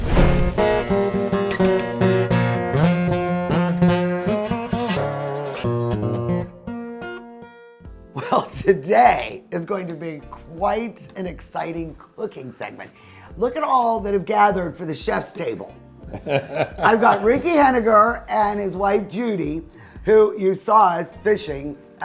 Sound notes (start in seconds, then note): 0.0 fire whooshing; 1.0 upbeat blues music; 8.2 chuckles; 16.0 laughs